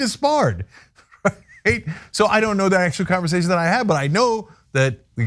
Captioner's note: laugh